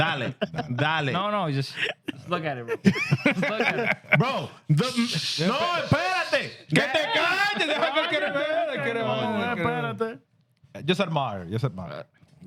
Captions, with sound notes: Dolly, Dolly. Just look at it, bro. (Laughing) Bro, the-- (Speaking Foreign Language) Just admire, just admire.